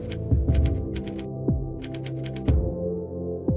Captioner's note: none